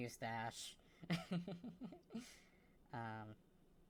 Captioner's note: laughs